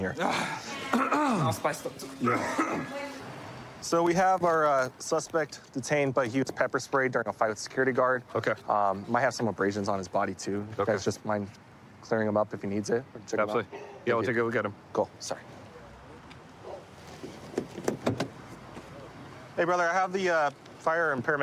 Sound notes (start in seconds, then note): 0.8 clears throat; 1.9 coughs